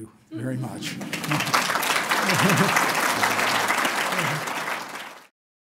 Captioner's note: applause